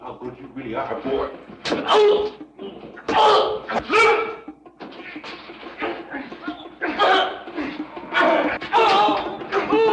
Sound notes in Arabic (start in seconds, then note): 2.0 آهات